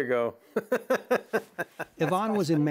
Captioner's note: laughs